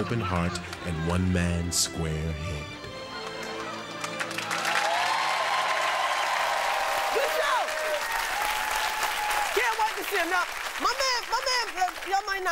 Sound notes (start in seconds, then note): 3.8 audience applauding